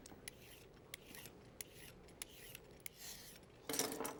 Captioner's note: peeler scraping